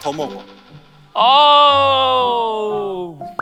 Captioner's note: groaning